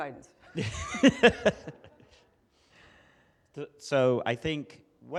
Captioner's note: group laughs